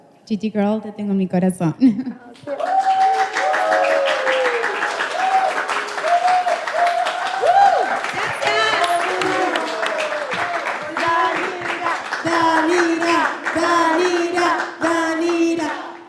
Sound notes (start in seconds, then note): 1.8 laughing; 2.6 cheering; 2.6 clapping; 9.2 cheering; 9.2 clapping